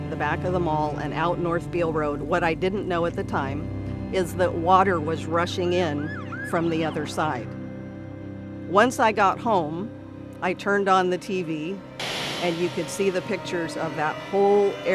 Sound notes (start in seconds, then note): 7.6 siren wailing